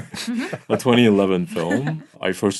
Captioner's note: laughing